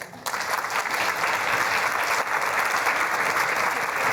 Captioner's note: applause